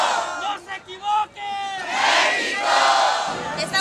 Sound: man yelling; crowd; man yelling

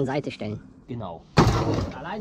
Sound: crash

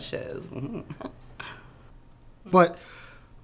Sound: giggling

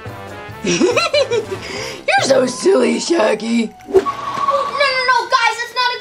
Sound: laughs

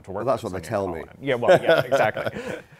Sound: laughs

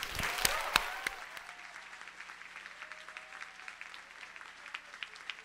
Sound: audience cheers and applauds

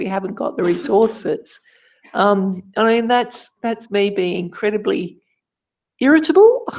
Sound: laugh

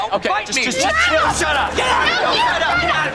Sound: arguing

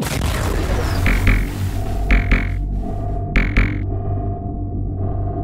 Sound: sphere c u b e noises

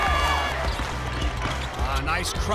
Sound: cheering

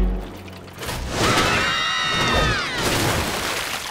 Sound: screaming

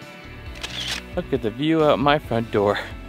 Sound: camera shutter

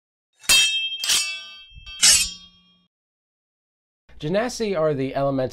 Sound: blades clanking

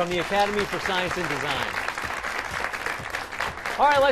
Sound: applause

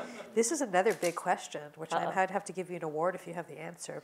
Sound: laugh

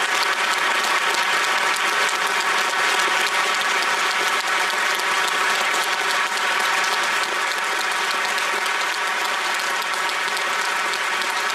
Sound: applause

